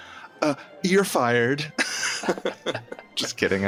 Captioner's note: all capitalists laugh